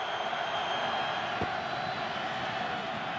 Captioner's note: crowd cheering